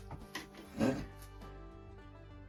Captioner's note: chuckles